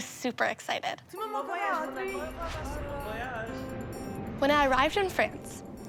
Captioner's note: people talking in french